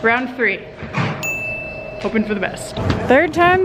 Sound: bell dings

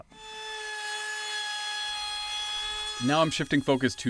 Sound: router being used

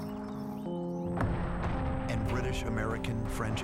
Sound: artillery fire

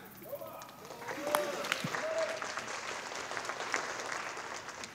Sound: audience applauding

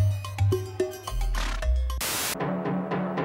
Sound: snorts

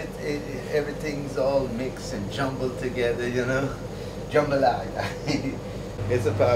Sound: laughter

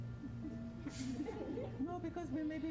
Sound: laughter

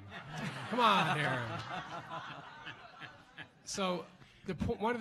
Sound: laughs

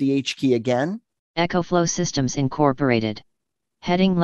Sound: computer Voice

